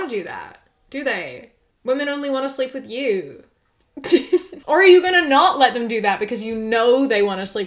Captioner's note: laughs